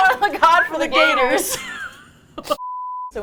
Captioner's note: both laugh